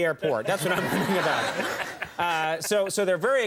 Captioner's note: crowd laughs